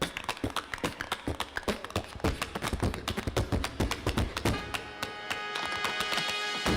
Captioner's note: tap-dancing